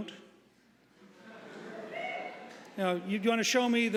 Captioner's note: audience laughing